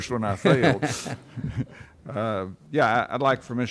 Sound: laughing

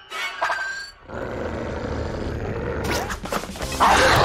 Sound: growling

